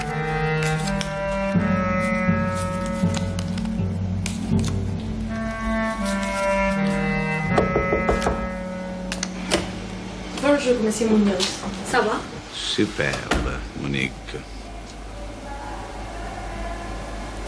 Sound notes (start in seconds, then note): 7.5 there is a knock on the door